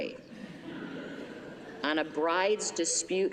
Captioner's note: laughter